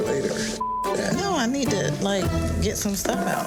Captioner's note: beep